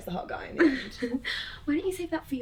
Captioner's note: laughs